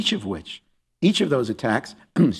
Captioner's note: clears throat